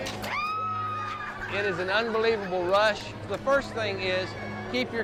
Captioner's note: screams